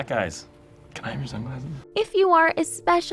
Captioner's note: whispering